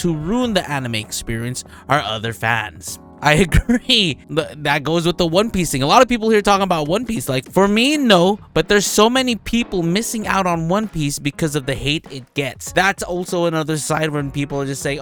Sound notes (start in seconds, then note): 3.3 laughing